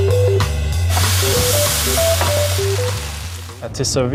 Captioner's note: butter sizzling